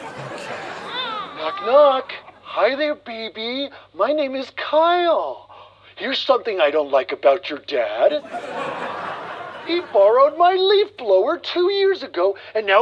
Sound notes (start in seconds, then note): 1.6 baby talk